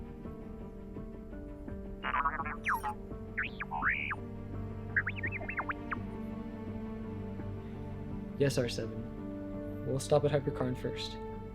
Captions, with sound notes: *R7 chirping on comlink* Yes, R7. We'll stop at Hyperkarn first